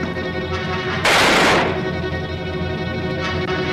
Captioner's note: gun fires